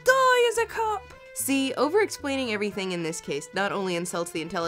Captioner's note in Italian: voce fuori campo